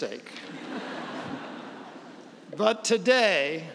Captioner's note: laughs